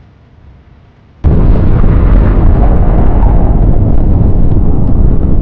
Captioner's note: bomb roaring